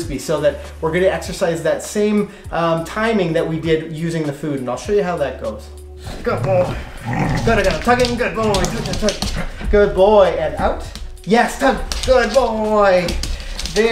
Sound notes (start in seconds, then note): 6.0 growling; 6.1 rustling